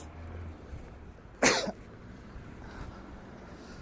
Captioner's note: coughing sound